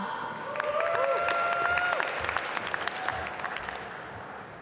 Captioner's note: applause